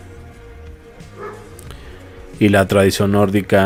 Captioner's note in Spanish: resoplido